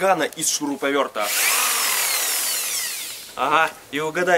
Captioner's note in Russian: звук шуруповерта